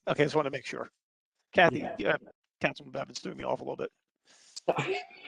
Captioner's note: laughter